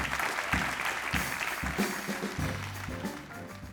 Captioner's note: audience applauds